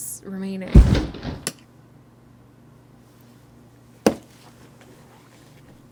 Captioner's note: loud crash